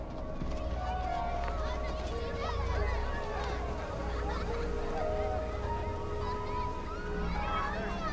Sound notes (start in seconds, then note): 2.4 children chattering and laughing